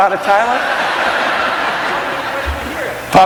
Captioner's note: audience laughing